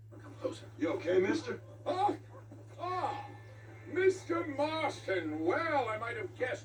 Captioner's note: shouts in fear